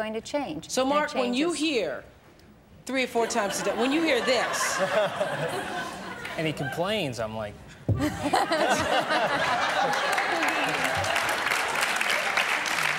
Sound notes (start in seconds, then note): 3.2 laughter; 8.0 laughter